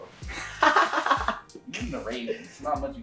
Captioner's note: laughs